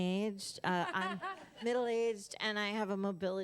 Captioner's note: laughter